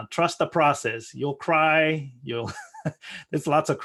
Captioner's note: laughing